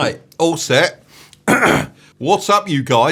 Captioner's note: clears throat